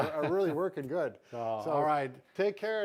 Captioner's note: laughs